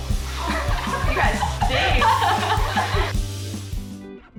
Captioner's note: all laughing